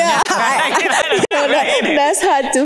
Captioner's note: panelists laughing